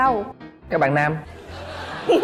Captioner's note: laughing